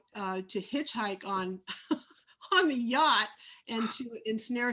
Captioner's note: laughs